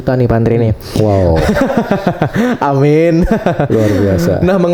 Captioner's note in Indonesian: tertawa